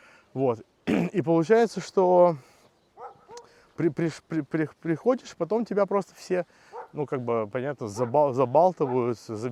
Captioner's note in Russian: откашливается